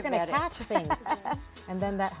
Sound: group laughing

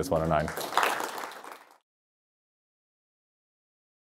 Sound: applause

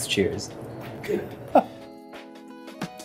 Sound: chuckles

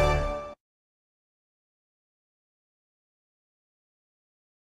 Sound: silence; upbeat orchestral music

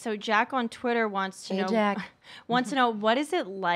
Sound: laughs

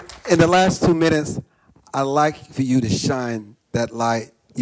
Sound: applause

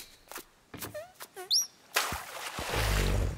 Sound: bird chirping; caterpillar farting; water splashing

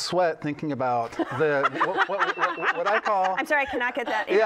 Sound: laughter

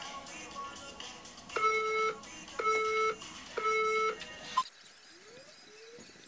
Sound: counter down timer from the phone on screen is heard

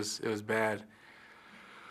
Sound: deep inhale

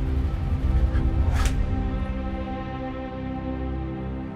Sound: slap!

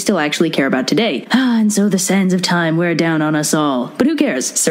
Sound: sigh

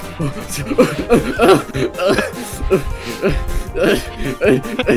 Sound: even more grunts and yelps; still panting

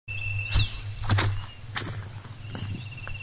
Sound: footsteps

